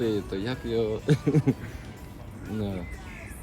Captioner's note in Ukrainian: сміється